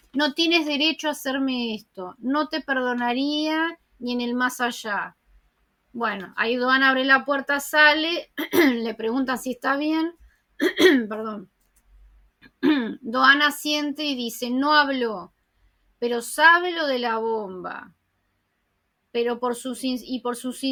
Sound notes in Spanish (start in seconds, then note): 10.6 Sonido de tos – “Perdón”